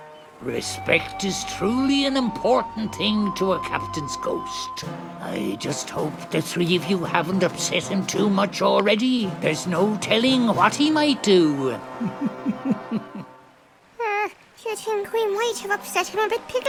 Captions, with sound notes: - Respect is truly an important thing to a captain's ghost. I just hope the three of you haven't upset him too much already. There's no telling what he might do. (chuckles softly) - Hmm. Do you think we might have upset him a bit, Piggley?